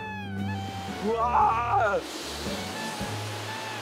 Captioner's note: screams